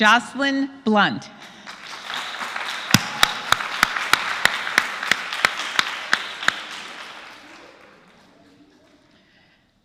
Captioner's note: applause